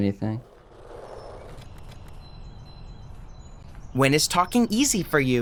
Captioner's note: nature noises; skateboard grinds